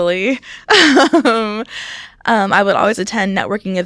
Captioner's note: laughs